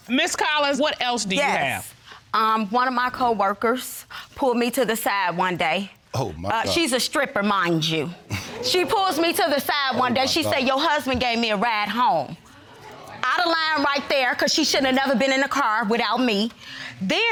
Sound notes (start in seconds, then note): 8.3 audience member gasps